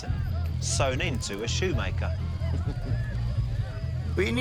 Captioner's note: chuckles